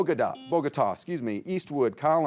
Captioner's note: buzzer beeping